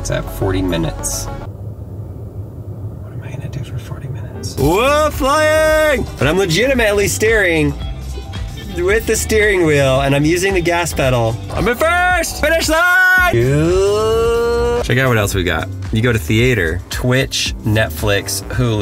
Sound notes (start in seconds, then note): 1.0 car heat blows; 13.6 narrator hums